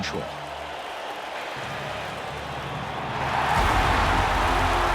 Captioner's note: crowd cheering